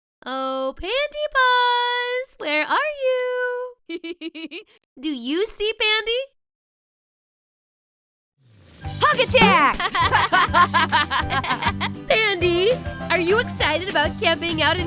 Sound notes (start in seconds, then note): 3.8 laughs; 9.1 laughs; 9.5 boing